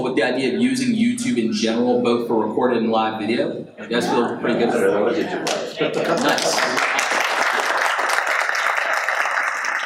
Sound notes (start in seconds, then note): 4.0 audience assents; 5.4 audience applauds